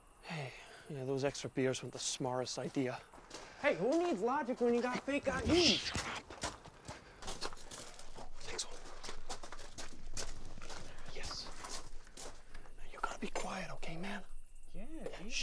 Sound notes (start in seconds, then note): 9.0 footsteps crunching